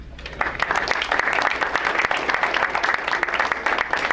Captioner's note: crowd applauds